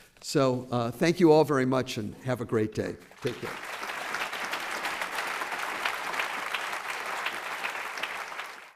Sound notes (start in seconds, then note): 3.0 applause